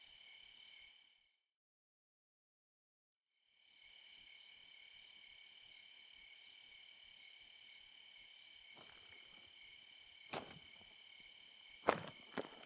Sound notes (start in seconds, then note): 3.2 crickets chirping; 8.8 heavy footsteps crunching